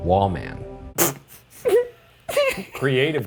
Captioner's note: both chuckling